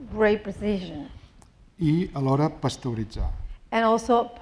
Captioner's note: speaking spanish